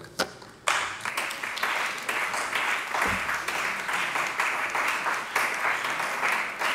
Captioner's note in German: Beifall bei der CDU und dem BÜNDNIS 90/DIE GRÜNEN